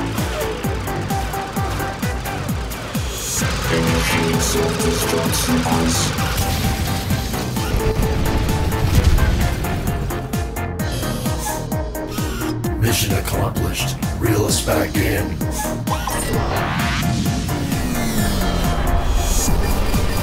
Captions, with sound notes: - Initiate self destruct sequence. (explosions booming) (doors whir) - Mission accomplished. Reel us back in. (pod whooshing)